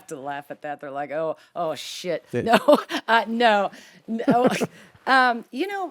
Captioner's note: both chuckling